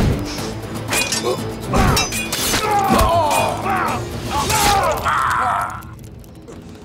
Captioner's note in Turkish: Dövüş sesleri